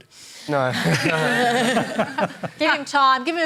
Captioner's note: laughter